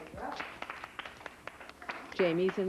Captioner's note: children clapping